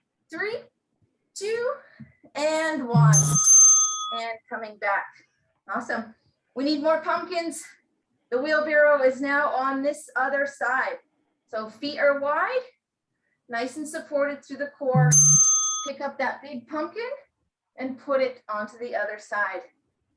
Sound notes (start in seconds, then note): 14.9 bell rings